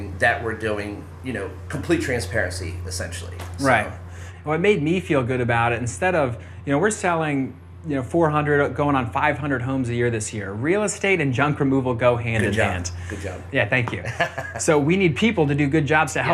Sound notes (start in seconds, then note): 14.0 chuckling